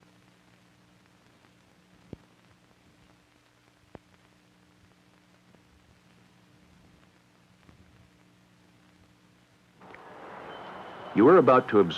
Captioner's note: imposing silence